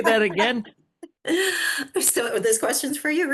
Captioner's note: laughs